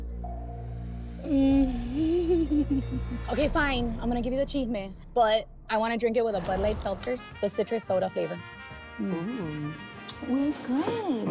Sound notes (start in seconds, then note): 1.9 laughing